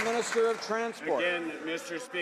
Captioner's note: some Applause